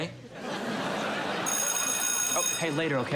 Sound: bell ringing

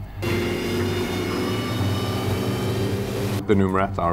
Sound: sound of engine as boat takes off

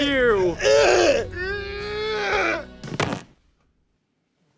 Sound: moaning

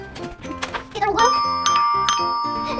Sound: door bell rings

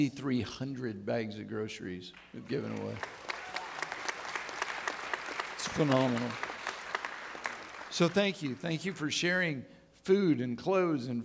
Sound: audience clapping

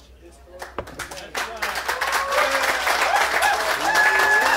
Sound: applause

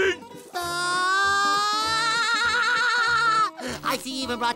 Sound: laughing

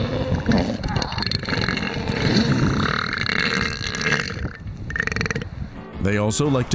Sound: seal noises too disgusting to transcribe

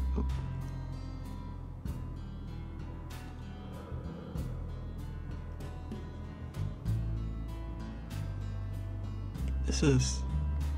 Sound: slow breathing

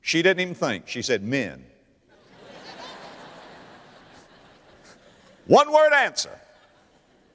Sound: audience laughter

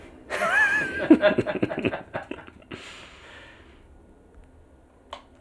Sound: laughing

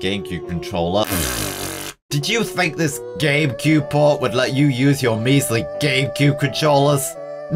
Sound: pfft

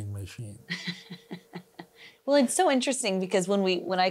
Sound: laughs

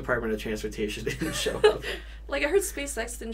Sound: both laugh

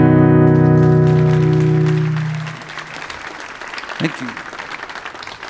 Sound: audience applauding

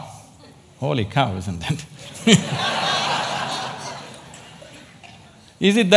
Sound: laughter

